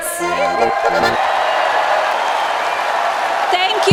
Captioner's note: audience applause